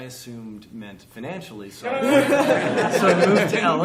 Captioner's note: laughter